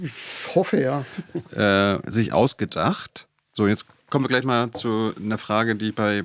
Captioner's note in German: gelächter